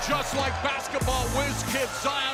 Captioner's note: crowd cheering